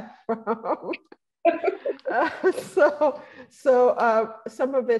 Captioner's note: laughing